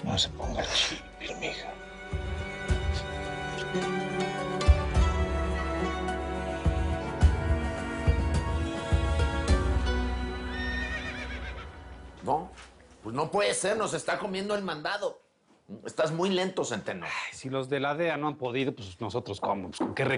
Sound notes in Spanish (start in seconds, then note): 10.5 Relinchos